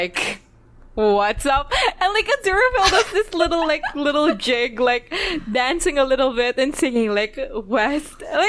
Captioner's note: laughs